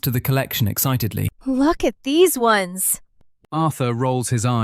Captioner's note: excitedly